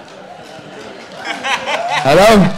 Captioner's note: audience laughing; audience cheering